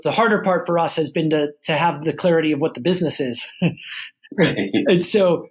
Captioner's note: laughs